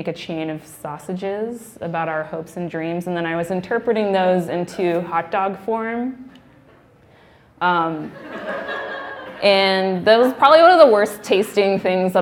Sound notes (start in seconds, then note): 8.2 laughing